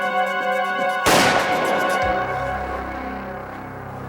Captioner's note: gunshot